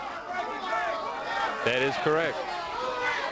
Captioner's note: crowd chatter